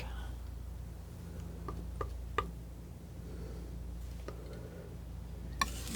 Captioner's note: tapping